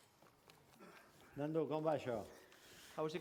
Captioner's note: non-english speech